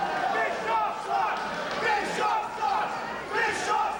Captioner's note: crowd chanting